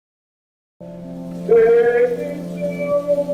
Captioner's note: water flowing